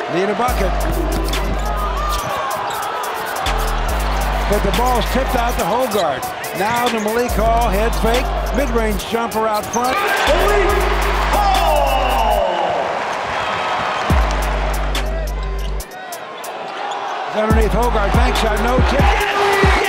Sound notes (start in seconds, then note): 12.1 crowd cheers